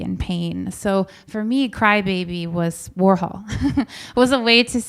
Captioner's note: chuckles